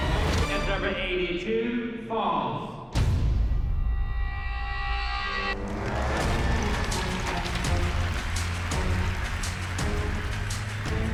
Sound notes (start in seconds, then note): 5.6 applause